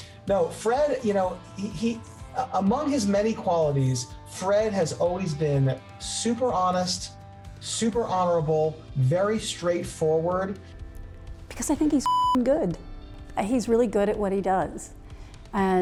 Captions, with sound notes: No, Fred, you know... Among his many qualities, Fred has always been super honest, super honorable, very straightforward. - Because I think he's (beep) good. He's really good at what he does.